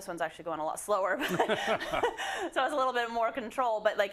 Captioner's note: laugh